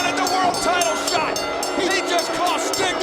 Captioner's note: bell ringing